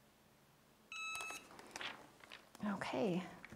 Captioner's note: timer beeps